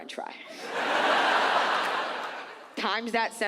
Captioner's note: audience laughs